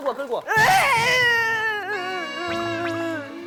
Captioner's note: screaming in fear